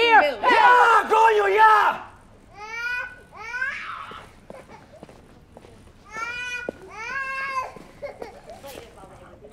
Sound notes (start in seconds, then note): 1.3 spanish; 2.6 baby crying